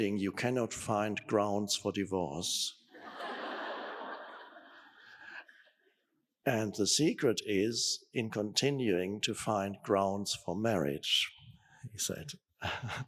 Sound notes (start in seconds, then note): 3.0 audience laughing; 12.6 Eckhart chuckling